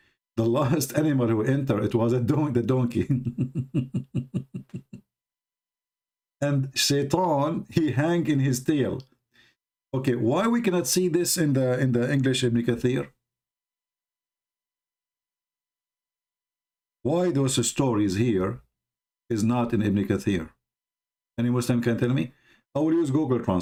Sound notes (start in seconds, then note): 3.0 Ketawa